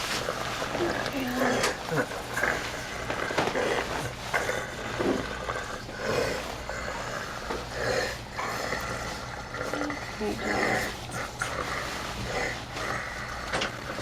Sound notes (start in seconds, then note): 3.4 ragged, Guttural Breathing